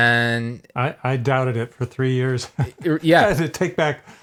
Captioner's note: chuckles